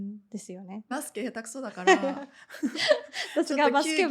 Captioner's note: laughs